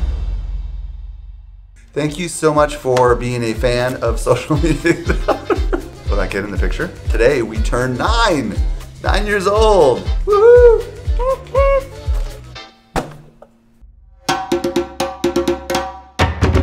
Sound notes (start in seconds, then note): 4.6 laughing; 10.5 imitates trumpet